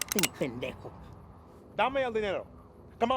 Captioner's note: gun cocks; Vargas speaks in Spanish